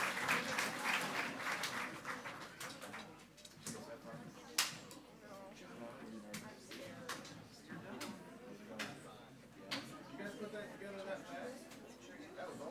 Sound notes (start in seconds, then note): 3.2 members and audience speaking faintly